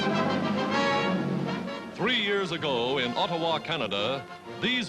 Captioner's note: old band music; voiceover